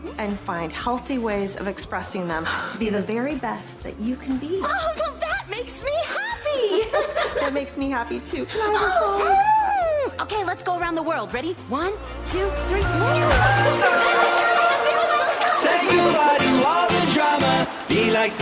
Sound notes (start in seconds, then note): 5.1 laughter